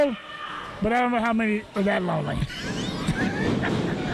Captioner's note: laughs